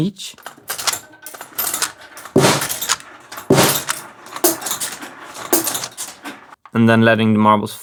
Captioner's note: single marble drops on the drums